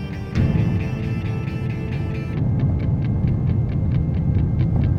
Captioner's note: airplane take-off